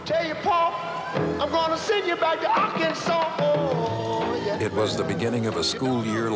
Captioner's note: police sirens in the background